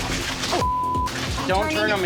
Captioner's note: beep